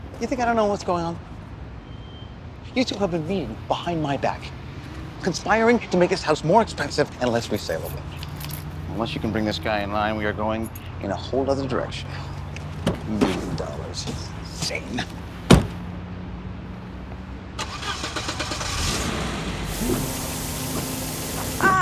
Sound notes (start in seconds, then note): 16.4 car door closes; 17.6 engine turning over